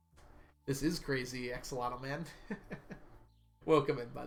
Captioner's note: laughs